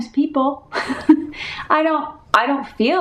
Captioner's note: laughing